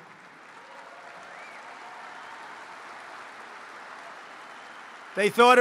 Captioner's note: applause